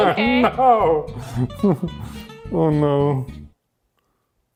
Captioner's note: laughs